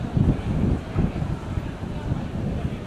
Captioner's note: none